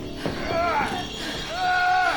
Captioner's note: man groaning in pain